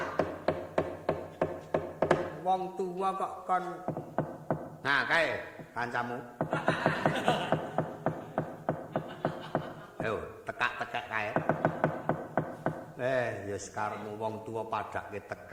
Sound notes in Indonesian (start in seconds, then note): 6.5 tertawa